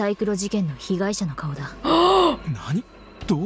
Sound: gasps

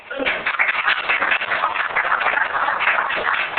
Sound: applause

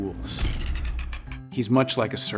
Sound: tools clicking

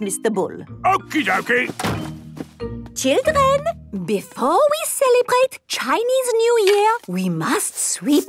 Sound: none

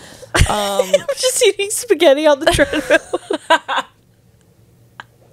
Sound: laughs; panel laughing

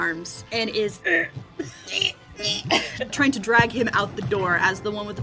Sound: strained goblin sounds

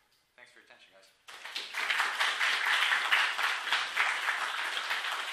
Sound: applause

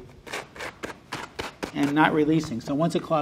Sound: gloves scraping

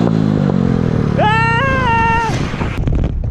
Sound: yells

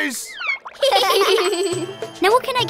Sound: laughing

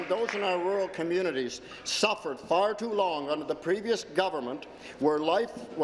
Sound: applause

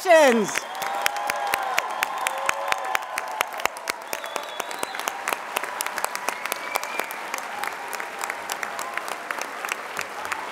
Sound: applause

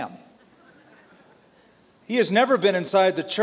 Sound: laughter

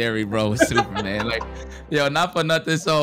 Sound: laughing

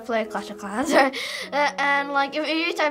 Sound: laughing

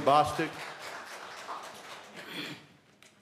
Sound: applause

